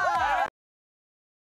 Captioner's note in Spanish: risas